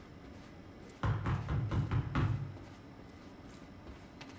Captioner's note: Amy knocks on the door